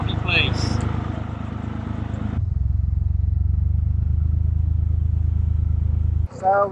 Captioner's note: narrowboat engine sound